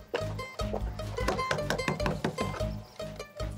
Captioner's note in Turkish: Kapı tıklıyor